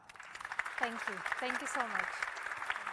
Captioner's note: audience applauding